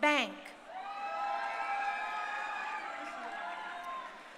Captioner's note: crowd cheering